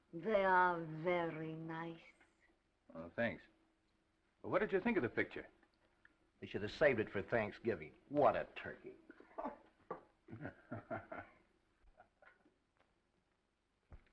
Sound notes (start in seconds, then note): 9.2 laughs; 10.3 dark haired director laughs